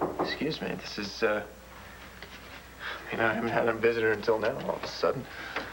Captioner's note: knock on door